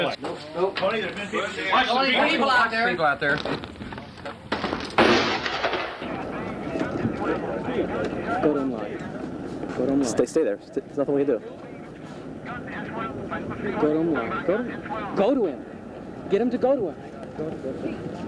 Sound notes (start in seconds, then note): 4.9 gun firing